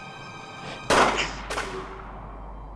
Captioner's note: gunshot